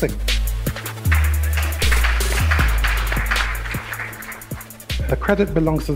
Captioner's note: light audience applause